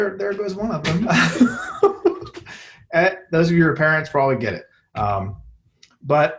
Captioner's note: laughter